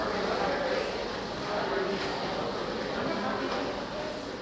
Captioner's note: people chattering